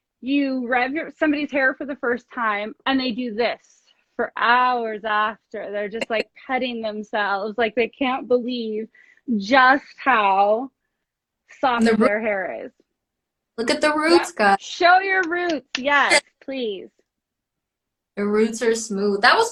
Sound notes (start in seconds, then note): 15.1 claps